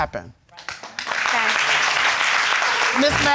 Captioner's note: crowd applauding